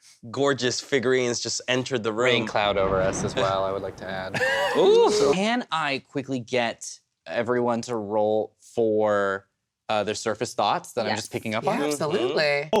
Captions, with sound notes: gorgeous figurines just entered the ring. There's a rain cloud too over us, I'd like to add. (laughs & oohs) Can I quickly get everyone to roll for their surface thoughts that I'm just picking up on? Absolutely!